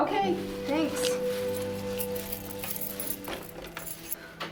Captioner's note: keys rattling